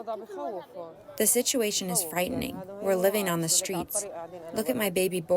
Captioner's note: through translator